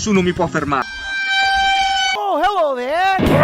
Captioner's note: Kitchen Nightmares/Hell's Kitchen sound